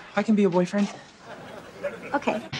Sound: audience laughs

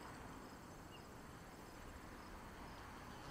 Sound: crickets chirp

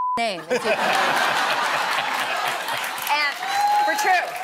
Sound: laughter

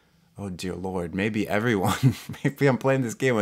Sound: laughs

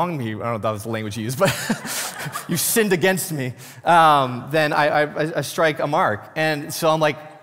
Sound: laughs

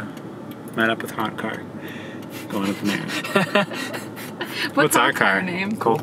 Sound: laughter

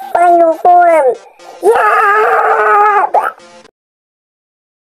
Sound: intense screaming

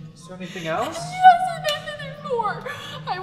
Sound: hysterical

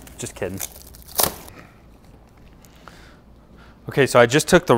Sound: wrapper clutters

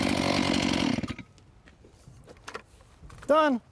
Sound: saw motor stops

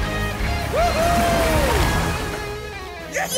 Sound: cheering

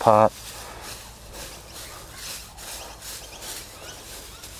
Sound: mulch rustles

